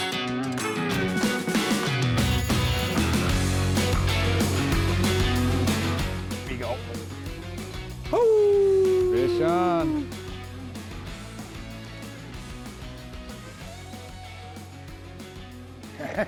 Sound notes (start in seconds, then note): 0.2 upbeat rock music; 8.1 howling; 11.1 upbeat rock music